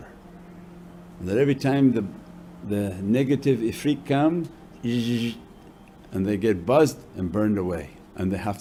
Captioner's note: buzzing sound